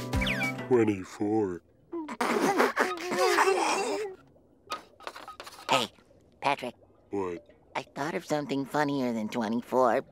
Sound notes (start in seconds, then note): 2.0 laughing